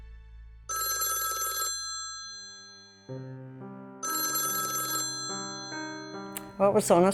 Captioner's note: phone ringing